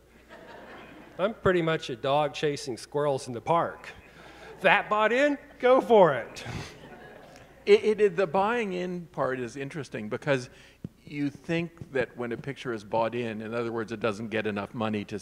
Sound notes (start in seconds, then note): 0.2 audience laughing; 5.8 audience chuckling